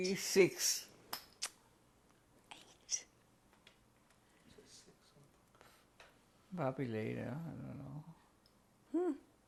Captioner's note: pauses for 6 seconds